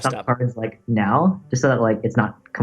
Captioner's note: choppy audio